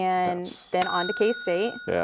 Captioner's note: bell ringing